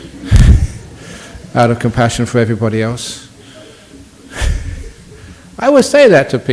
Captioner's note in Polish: Śmiech